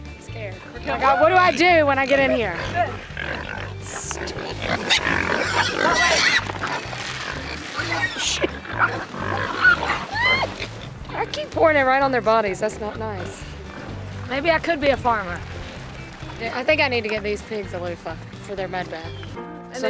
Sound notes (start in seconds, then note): 3.9 pigs squealing